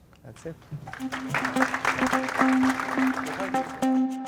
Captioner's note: applause